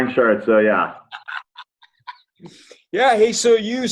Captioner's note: laughs